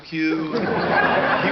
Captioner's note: audience laughter